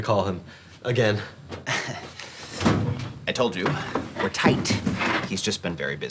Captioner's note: chuckles